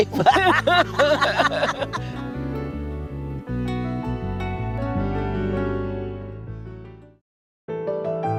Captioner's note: laughter